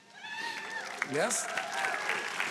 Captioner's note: audience applauding and cheering